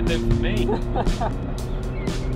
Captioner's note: laugh